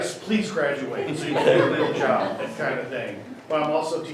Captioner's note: everyone laughs